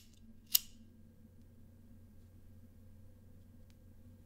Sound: lighter clicks

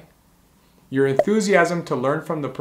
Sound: bubble popping

